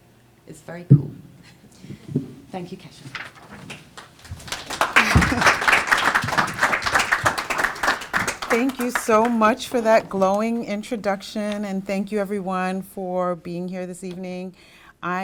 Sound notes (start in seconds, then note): 4.6 applause